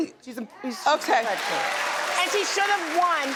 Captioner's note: audience cheers